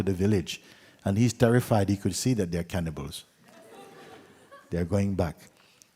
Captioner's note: laughter